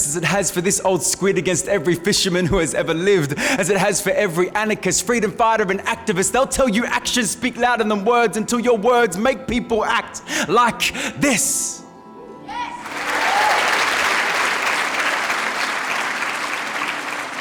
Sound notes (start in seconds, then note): 12.6 crowd cheers and claps